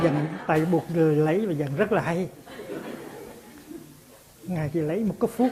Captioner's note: audience laughs